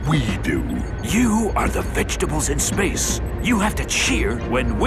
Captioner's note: whispering